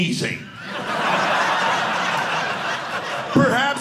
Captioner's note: audience laughing